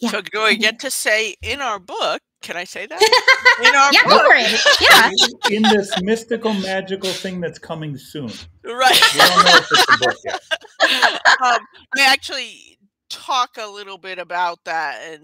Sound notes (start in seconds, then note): 3.0 laughs; 5.0 all laughing; 10.6 all laughing